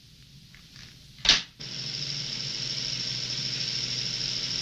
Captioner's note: machine reel rolling